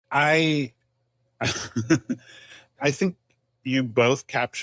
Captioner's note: chuckles